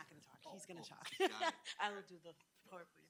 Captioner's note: laughs